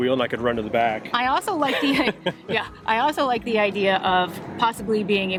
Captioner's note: chuckles